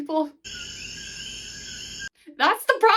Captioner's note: crickets